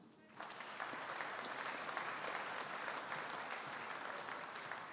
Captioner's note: audience applauding